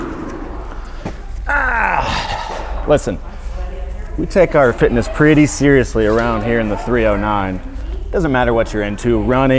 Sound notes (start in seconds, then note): 0.0 groans